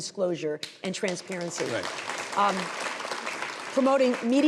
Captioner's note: audience applauding